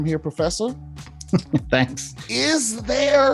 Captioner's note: laughs